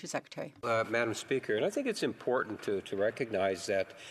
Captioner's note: applause